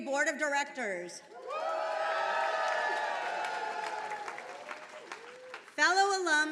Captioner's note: attendees cheering and applauding